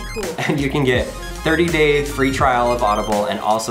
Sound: laughs

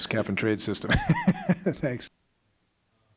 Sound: laughter

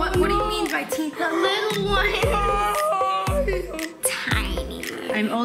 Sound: gasping

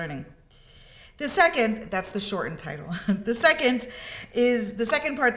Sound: chuckles

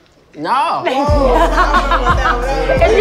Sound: laughs

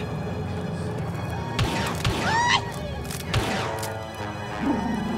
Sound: Blaster fire & ewok shouts

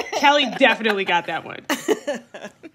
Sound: laughter

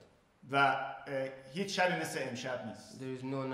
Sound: speaking in farsi

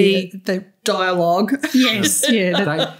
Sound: laughter

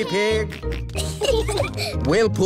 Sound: peppa and george giggling

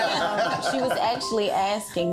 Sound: all laughing

